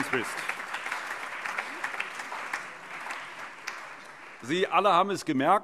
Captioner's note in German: Allgemeiner Beifall